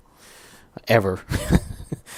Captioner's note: laugh